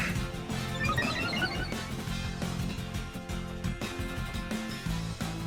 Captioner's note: Scyther exclaiming; sound effect beeping